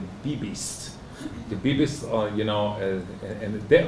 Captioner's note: hebrew